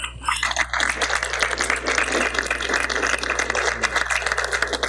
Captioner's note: applause